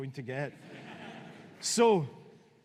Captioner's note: audience laughing